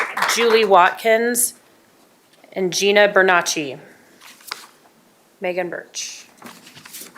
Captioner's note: applause